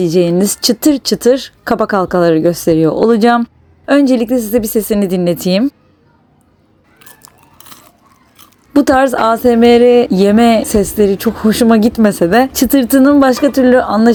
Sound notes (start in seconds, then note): 5.2 crunch sound